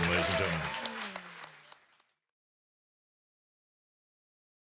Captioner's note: crowd clapping